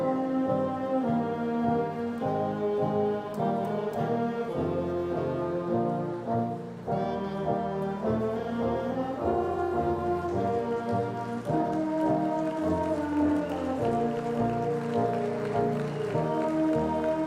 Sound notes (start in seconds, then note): 10.0 audience applause